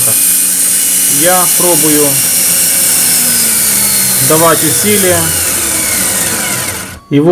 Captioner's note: friction